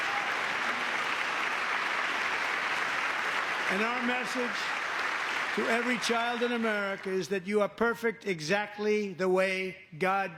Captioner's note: applause